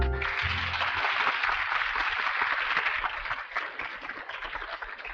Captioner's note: audience applauding